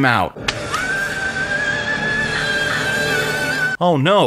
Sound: vibrating screamy boi sounds

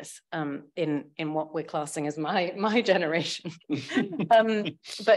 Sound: chuckles; laughs

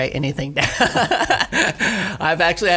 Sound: laughs

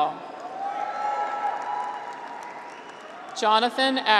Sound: graduates cheer

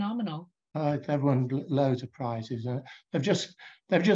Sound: faintly speaking

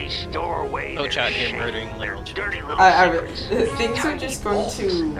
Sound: sputtering

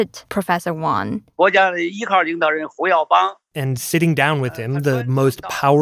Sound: speaking Mandarin

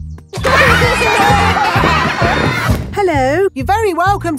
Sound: laughter

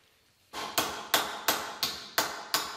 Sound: tapping

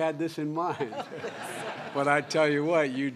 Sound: laughter

